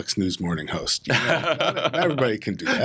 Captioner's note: laughs